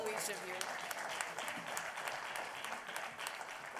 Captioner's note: applause